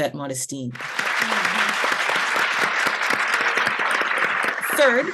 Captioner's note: applause